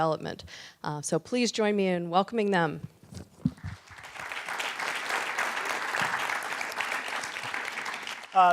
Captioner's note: applause